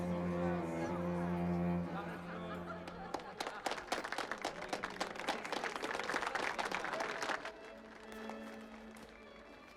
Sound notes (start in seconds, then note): 2.8 applause